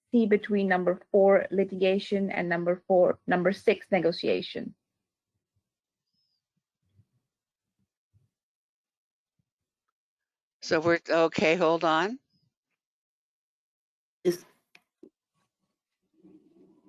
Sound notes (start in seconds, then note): 5.6 5 seconds pause; 15.8 17 seconds pause